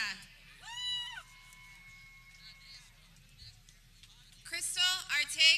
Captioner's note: people cheering